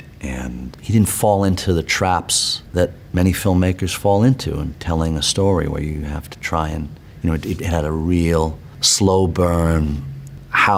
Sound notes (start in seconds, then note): none